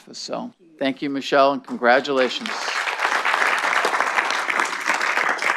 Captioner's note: clapping